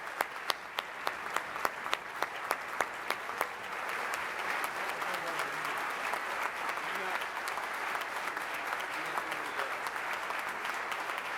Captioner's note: applause